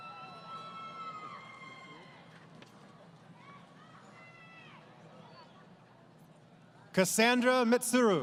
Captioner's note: crowd Cheering